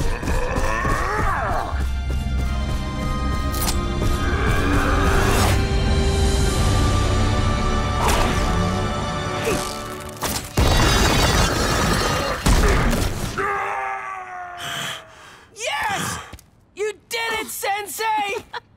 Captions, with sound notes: [grunting] [grunting] [groaning] No! Yes! You did it, Sensei!